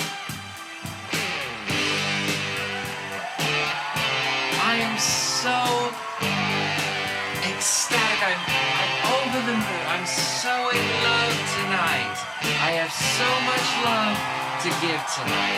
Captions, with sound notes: (Roaring applause) I am so ecstatic I'm, I'm over the moon. I'm so in love tonight. I have so much love to give tonight.